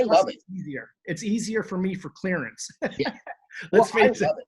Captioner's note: laughs